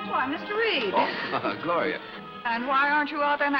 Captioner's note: chuckles